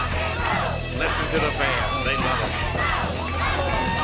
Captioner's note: crowd chatter